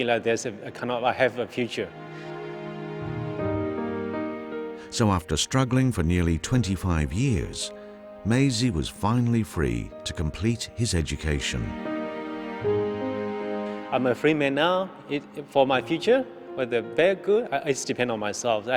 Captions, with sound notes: (enchanted piano music) - [Voiceover] So after struggling for nearly 25 years, Maesie was finally free to complete his education.